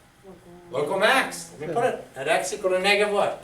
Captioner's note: voiceover